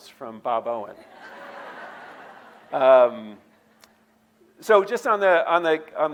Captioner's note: audience laughing